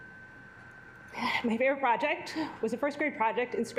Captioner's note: sighs